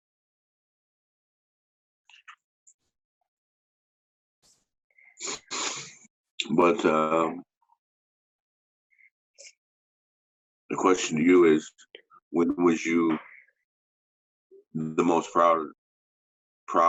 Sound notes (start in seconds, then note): 5.2 sniffs